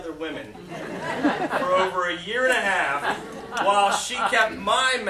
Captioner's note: laughter